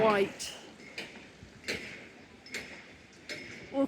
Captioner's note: loud hammering